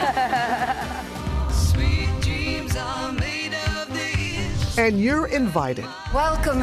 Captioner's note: laughs